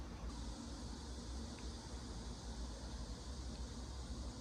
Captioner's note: the sound of cicadas, the symbol of summer